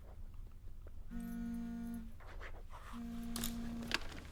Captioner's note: phone vibrating